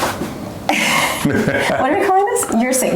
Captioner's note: laughing